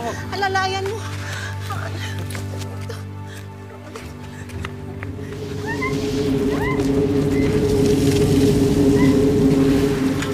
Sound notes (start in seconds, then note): 6.5 blowing; 6.5 screaming